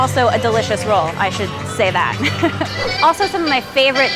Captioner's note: laughs